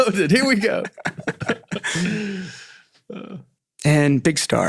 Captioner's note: all laughing